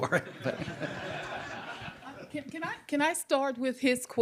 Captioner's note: audience laughing